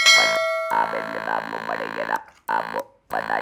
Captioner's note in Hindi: घंटी की आवाज़